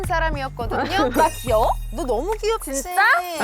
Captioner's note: instantly charmed sound